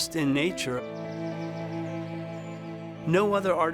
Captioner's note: birds tweeting